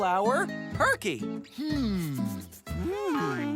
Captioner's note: "hmm" as they think